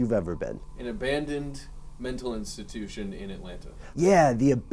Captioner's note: voiceover